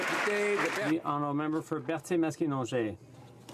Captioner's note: some Applause